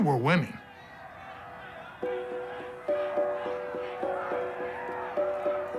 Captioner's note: yelling